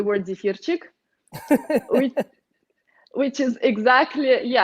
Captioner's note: laughs